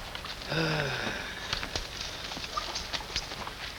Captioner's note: speaks in foreign language; doctor sighs